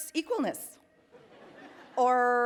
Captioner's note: attendees laughing